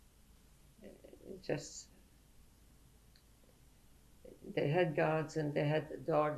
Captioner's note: pauses for 3 seconds